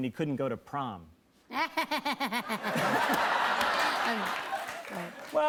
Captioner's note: laughs